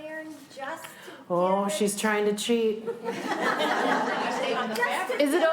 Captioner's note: laughter